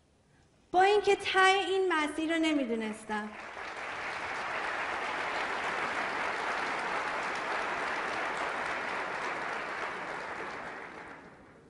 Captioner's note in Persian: تشویق حضار